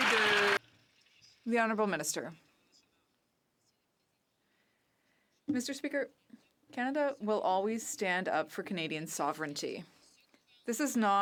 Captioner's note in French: applaudissements